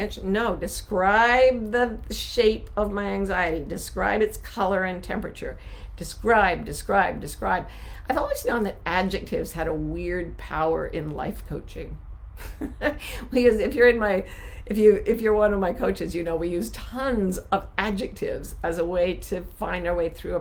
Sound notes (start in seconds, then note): 12.4 laughing